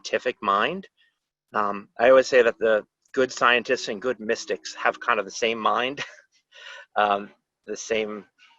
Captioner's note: laughter